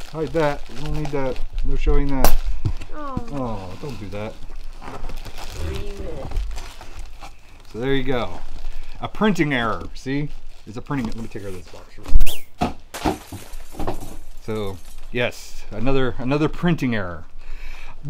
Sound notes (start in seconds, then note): 12.2 whizzing sound effect; 13.2 glass breaking